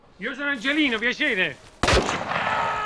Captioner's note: gunshot